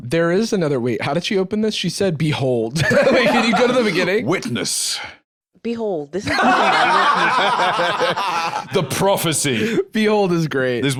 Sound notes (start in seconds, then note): 2.8 laughs; 6.3 both laughing